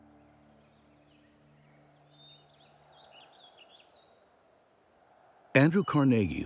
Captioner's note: birds chirping